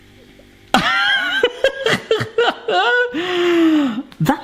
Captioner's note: laughs